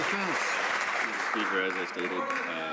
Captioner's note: some Applause